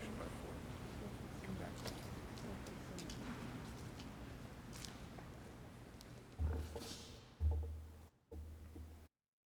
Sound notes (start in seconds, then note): 4.8 footsteps clicking